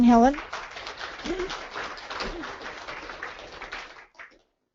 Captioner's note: audience applauding